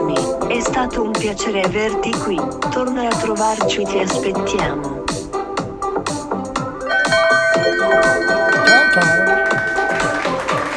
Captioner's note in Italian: Applauso